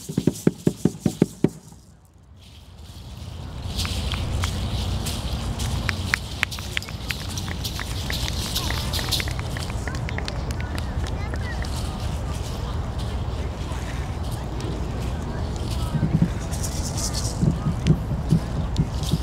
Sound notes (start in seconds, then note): 5.8 audience clapping; 15.4 drum beating